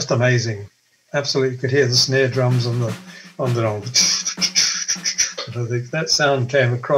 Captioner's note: verbalizes drum noise